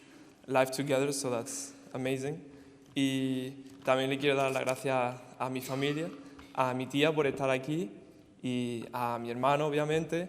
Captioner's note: in Spanish